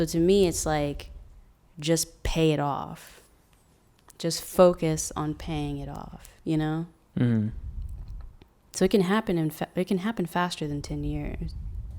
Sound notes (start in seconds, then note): none